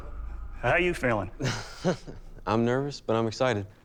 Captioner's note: laughs